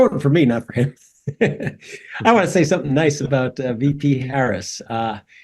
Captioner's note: laugh